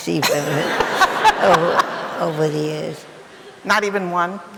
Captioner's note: laughing